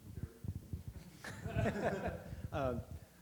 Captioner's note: laughter